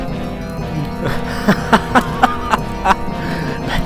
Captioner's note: laughter